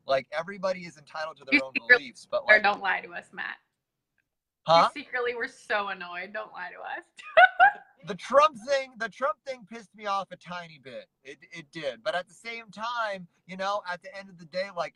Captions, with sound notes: -Everybody is entitled to their own beliefs. -[chuckles] Don't lie to us, Mat. -Huh? -You secretly were so annoyed. Don't lie to us. [laughs] The Trump thing pissed me off a tiny bit. It did but at the same time, at the end of the day,